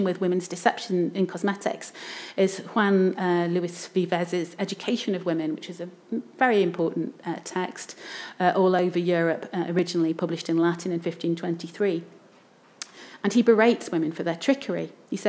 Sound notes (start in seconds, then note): none